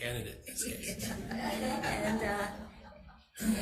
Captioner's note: audience chuckling